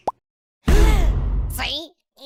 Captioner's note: gasp